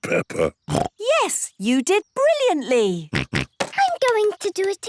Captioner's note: snorts